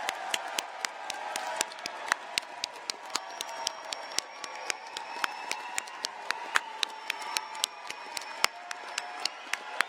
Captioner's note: applause